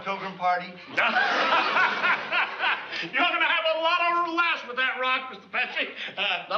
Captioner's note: laughs